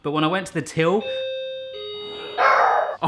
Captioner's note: bell chiming; barking